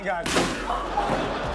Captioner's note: plank crashing; Chanel and audience laughing